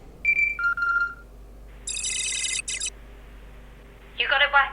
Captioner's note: watch beeping